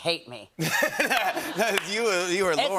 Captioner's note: laughter